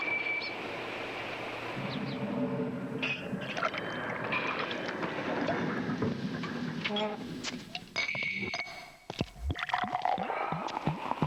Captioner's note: clink of glasses; creaking; gurgling